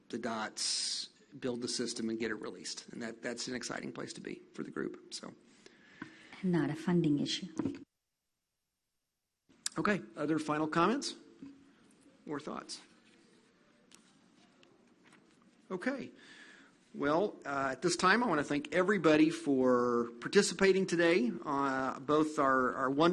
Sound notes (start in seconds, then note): 13.1 no audible response